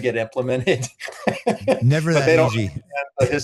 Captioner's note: laughs